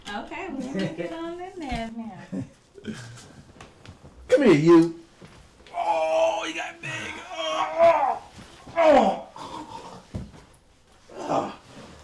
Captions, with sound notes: Okay, we'll let me get on in there now. - Come here you. Oh! (playful yelling)